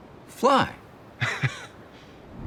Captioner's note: chuckles